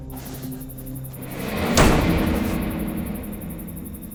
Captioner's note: door slams; insects chirping